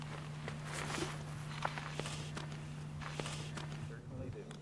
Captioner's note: wolf continues breathing heavily